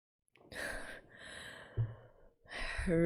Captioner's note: breathes